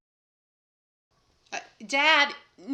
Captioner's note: silence